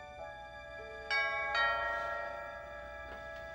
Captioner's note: doorbell rings